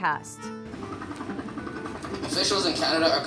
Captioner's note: helicopter sound effect